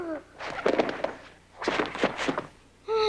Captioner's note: thump